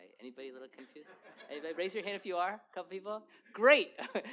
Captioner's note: laughter